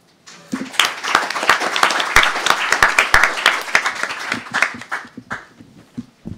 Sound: applause

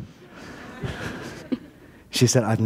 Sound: laughter

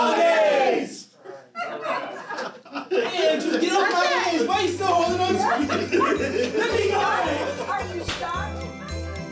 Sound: laughing

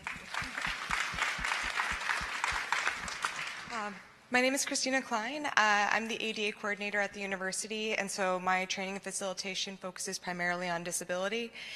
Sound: applause

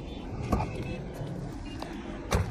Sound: car door opening

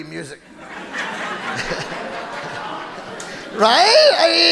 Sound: audience laughing

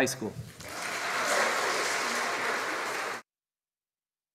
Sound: audience applauding

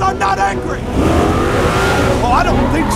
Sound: racing sounds

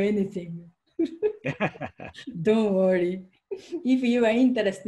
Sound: both laughing

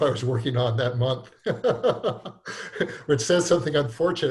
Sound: laughs

